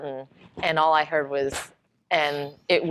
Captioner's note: smack